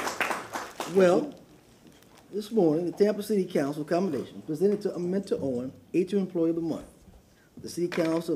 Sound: applause

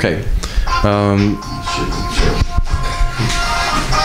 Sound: kelly's mobile phone rings

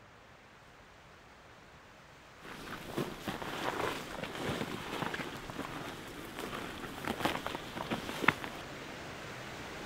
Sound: footsteps crunch loudly

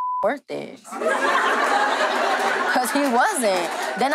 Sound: beep; audience laughing

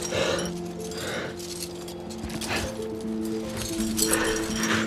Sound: heavy breathing

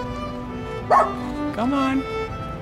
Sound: bark

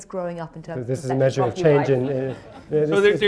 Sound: laughter

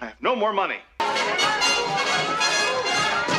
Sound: arguing

